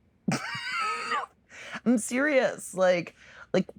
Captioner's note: laugh